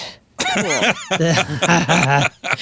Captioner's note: laughing